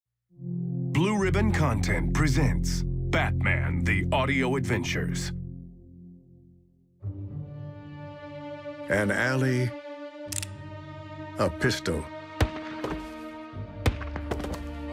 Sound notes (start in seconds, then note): 6.8 soft music; 10.3 safety clicks; 12.8 thumping